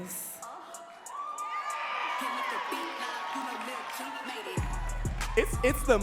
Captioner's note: audience cheering and clapping